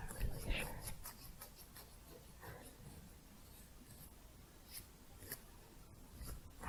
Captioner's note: slower, louder scissors sounds